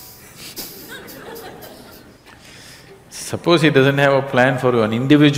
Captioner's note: laughter